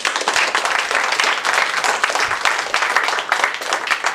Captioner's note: applause